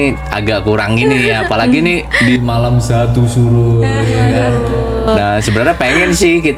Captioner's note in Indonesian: tertawa